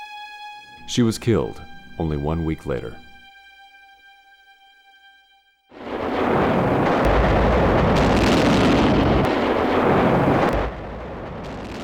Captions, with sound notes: She was killed only one week later. (explosions booming)